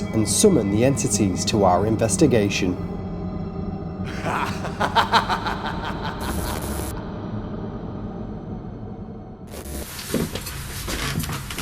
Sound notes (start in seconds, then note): 4.0 evil laugh